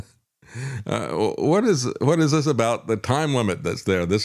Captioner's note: laughs